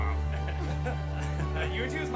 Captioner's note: all laughing